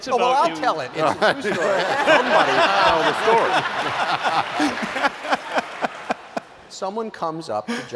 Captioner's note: laughter